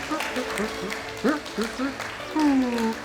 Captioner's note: applause; happy murmuring